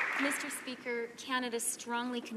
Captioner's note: some Applause